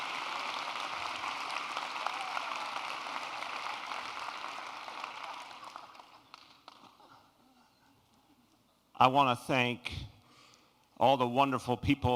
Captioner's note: okAPPLAUSE